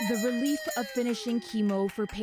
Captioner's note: cheers and Applause